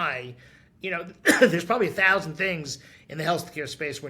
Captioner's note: coughs